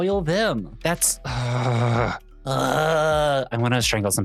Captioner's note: groans